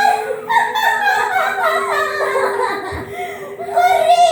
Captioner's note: shrill laughter